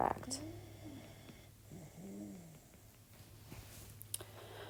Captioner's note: puppy snoring